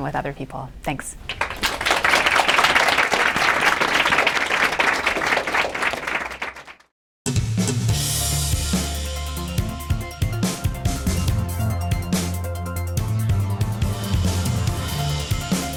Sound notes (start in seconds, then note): 1.2 applause